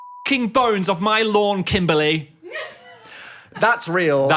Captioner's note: beep